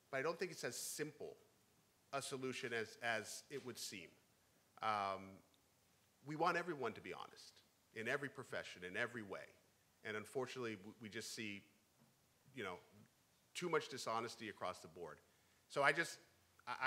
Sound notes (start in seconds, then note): none